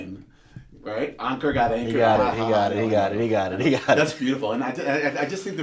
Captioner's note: laughter